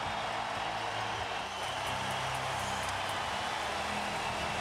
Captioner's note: cheers and applause